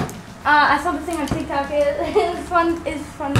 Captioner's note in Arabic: يضحك